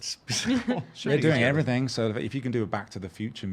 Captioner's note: laughing